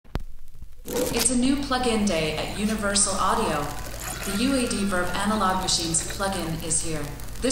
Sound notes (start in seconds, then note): 0.2 record player crackling